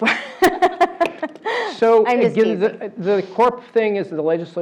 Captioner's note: laugh